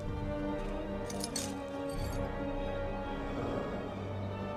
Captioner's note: glass tinkles